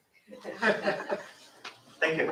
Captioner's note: laughter